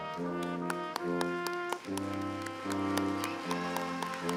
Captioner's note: applause